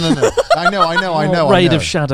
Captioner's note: laughs